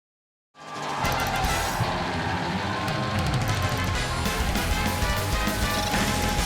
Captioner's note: crowd cheering; upbeat alternative music